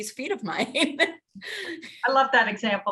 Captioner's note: laughs